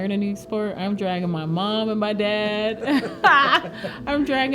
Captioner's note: laughs